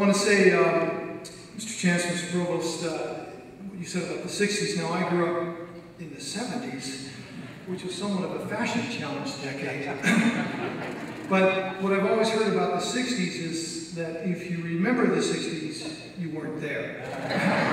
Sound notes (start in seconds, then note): 9.5 audience laughs; 17.0 audience laughs